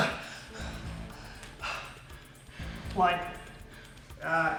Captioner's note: gasping